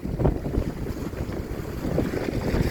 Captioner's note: high winds